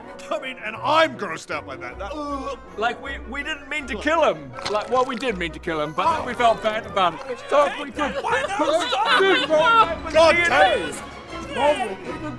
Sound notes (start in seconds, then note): 2.1 retches; 9.1 cries